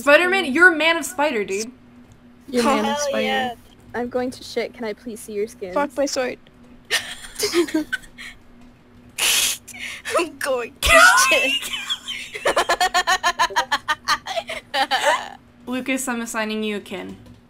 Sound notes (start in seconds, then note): 13.2 laughs